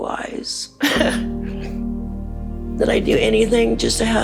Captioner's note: laughter